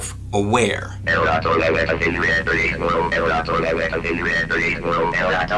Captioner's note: computer frantic babbling